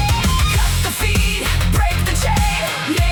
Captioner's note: voice turns fierce